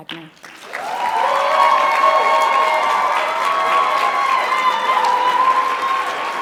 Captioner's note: audience cheering and clapping